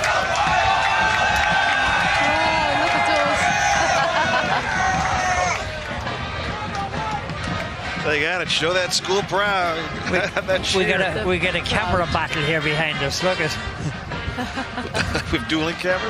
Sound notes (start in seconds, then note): 4.9 laughing